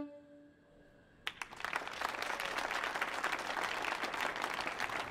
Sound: audience applauding

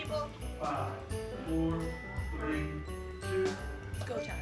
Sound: trilling; festive music

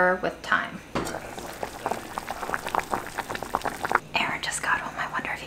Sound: water bubbling

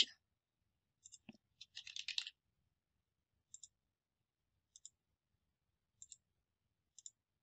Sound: mouse clicking

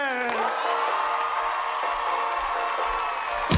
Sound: applause

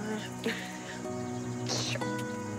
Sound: laughs

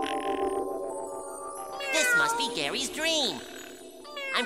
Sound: meowing

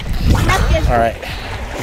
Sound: gurgle

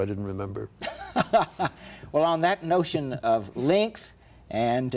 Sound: Ed laughs

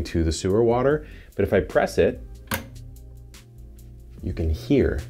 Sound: switch clunks

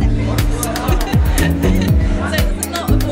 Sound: laughs

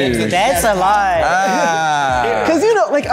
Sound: jet groaning

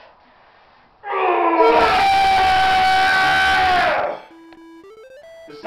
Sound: very loud scream

